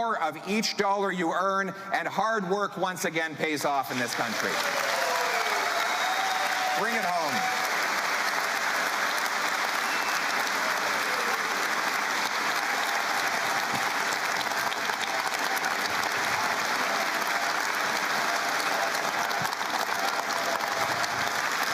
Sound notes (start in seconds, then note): 10.6 cheering and Applause